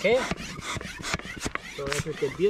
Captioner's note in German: pumpen